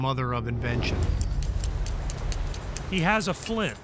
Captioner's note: striking flint